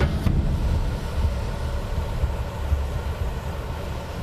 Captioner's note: steam hissing